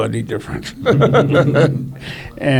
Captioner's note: laughs